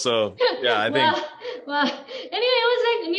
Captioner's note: laughs